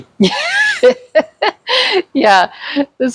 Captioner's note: laughs